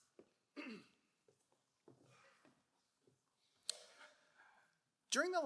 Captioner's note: clearing throat